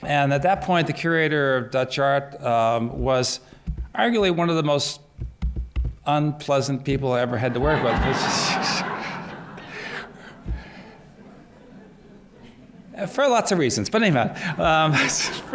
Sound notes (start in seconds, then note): 7.3 laughter